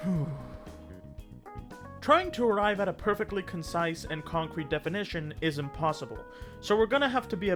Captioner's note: sigh